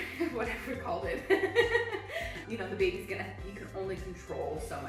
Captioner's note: laughs